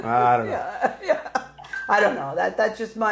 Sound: laughing

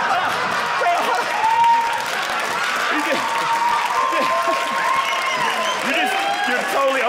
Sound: audience applauding

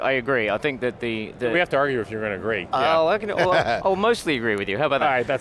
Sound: laughs

